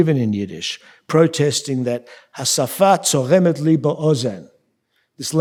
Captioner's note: speaking yiddish